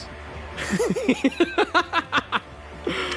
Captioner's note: laugh